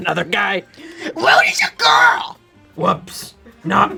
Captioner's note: screeches